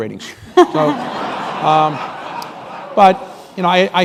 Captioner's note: laughter